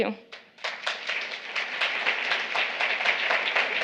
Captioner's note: applause